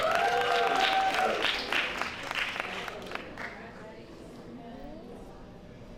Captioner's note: applause